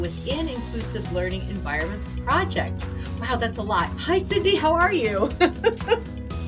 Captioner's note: laughing